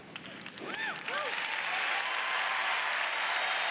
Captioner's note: cheers; applause